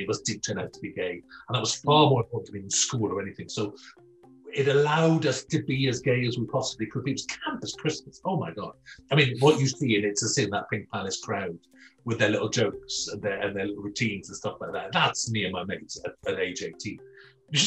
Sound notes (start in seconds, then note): 9.2 giggles gently